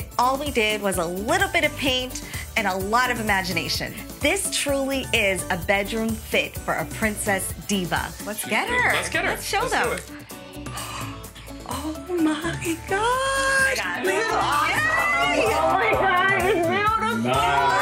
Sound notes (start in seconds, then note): 10.1 gasps